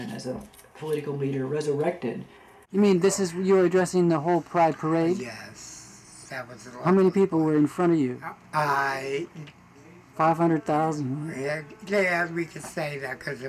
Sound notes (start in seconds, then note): 3.0 voiceover; 7.1 voiceover